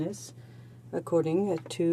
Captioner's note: speaking French